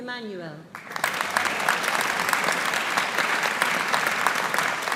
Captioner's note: audience applauding